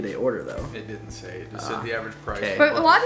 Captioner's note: male Voice